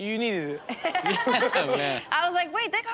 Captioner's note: Chanel and audience laughing